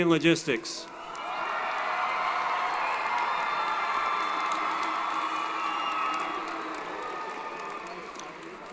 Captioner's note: applause & Cheering